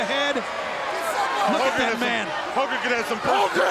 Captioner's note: audience shouting